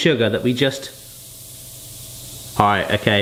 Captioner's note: fizzing